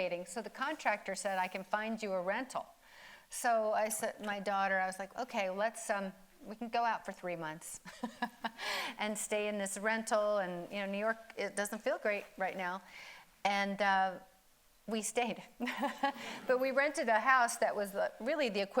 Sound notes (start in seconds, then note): 8.3 laughs; 15.1 audience laughing; 15.6 laughs